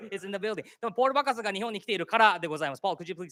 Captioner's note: speaking japanese